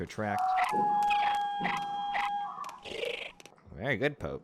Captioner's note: The bahro mimics the sound